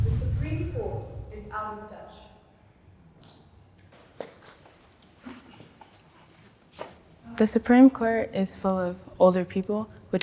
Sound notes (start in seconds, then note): 3.9 footsteps